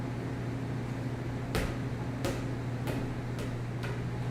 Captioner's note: ball bouncing on floor